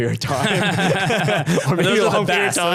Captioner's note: laughing